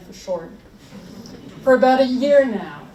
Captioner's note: audience laughs